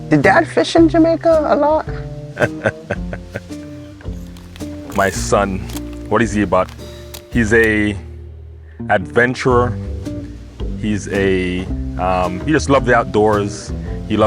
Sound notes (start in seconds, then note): 2.4 laughing